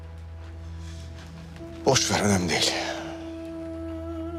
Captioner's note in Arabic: يتنهد; موسيقى درامية